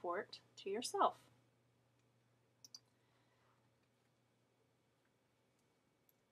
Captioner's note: silence